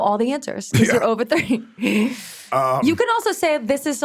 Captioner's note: chuckles